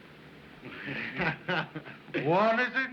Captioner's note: chuckling